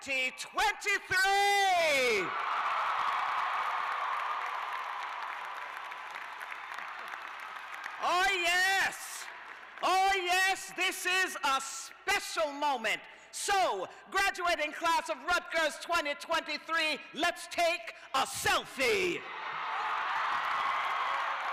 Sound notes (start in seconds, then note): 3.8 cheers and applause